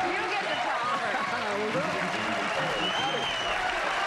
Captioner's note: cheers and applause